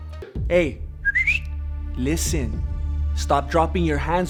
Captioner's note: whistles